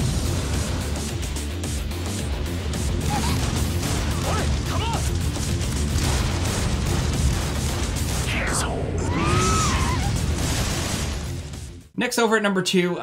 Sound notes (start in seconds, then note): 0.2 dramatic music continues; 2.8 gun firing; 8.3 person screaming